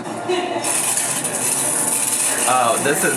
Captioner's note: tiles clatter